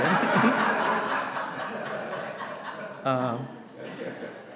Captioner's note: audience laughing